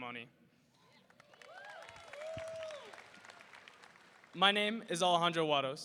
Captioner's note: audience applauding; audience cheering